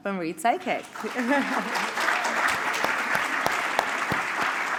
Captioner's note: applause